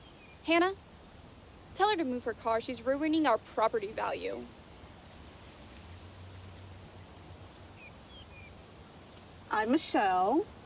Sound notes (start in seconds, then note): none